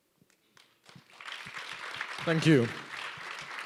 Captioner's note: applause